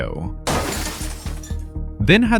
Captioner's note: crash